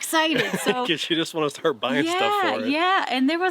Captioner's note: laughs